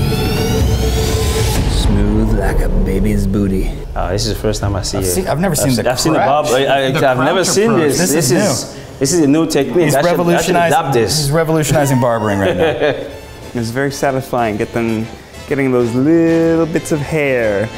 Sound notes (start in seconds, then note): 12.1 laughs